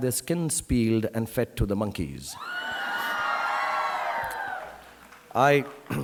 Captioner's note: audience cheering